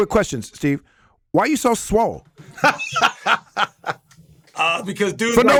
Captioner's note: Dean laughs